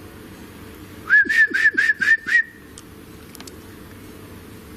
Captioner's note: whistles